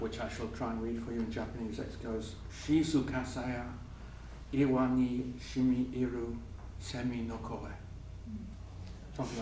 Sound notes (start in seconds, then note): 2.6 speaking japanese